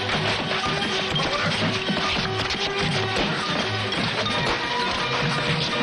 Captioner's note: crash!